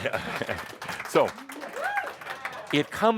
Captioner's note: audience applause